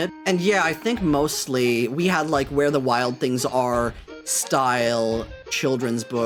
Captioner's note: none